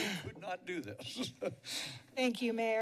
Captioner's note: laughs